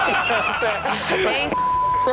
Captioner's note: crowd laughs